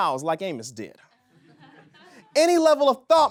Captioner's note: audience laughs